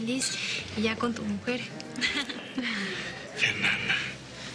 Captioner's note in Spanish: Ríe